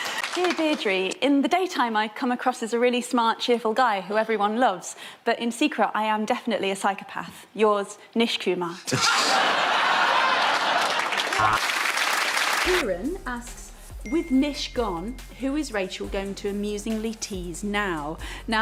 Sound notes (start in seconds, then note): 8.8 Nish laughing